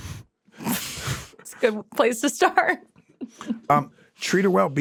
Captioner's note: laughs